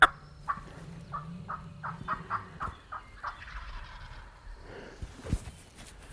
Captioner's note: multiple turkey calls